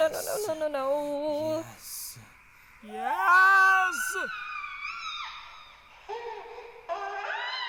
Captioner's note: sound of baby laughs and screams echoing; baby laughs and screams echoing